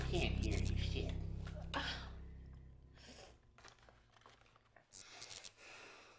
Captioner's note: Angela exhales